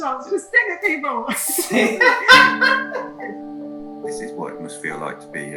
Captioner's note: laughs